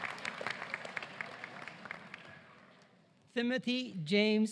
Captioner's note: applause